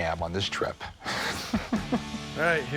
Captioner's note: laughs